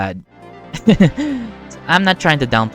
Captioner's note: laughs the pain away